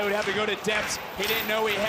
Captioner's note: audience cheering